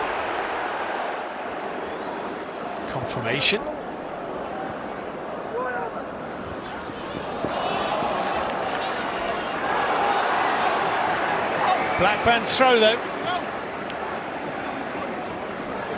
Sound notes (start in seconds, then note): 3.3 audience oohs; 12.7 cheers and applause